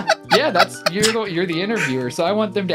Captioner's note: laughing